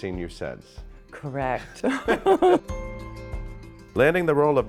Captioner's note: both laughing